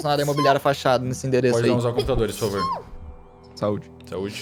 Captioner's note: sneezes